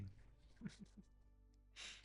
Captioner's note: laughs